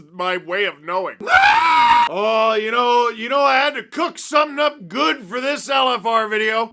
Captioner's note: various screaming